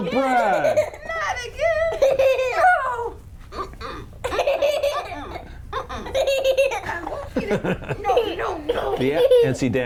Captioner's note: laughing